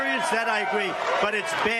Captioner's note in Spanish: aplausos